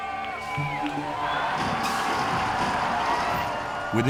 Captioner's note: crowd cheering